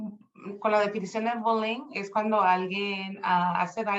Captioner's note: speaking Spanish